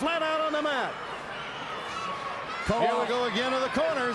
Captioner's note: crowd chatter